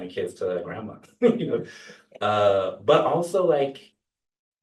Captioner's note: laughter